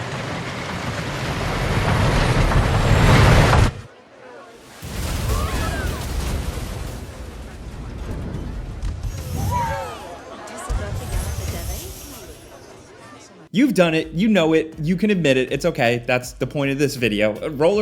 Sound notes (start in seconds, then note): 3.0 rollercoaster roaring; 10.8 magic sparkling